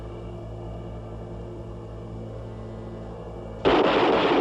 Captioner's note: gunfire